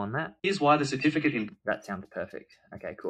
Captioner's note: voiceover